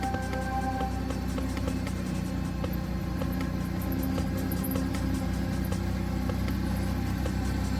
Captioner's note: intriguing music continues; ATV humming